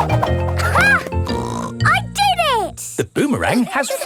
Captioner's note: snorts